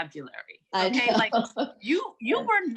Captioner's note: laughing